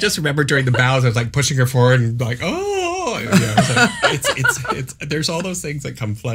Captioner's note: moans